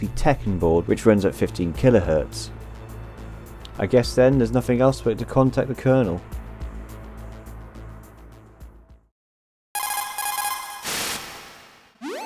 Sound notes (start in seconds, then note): 9.8 CODEC call